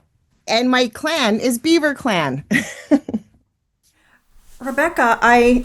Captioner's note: laughs